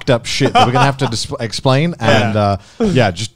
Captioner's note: laughs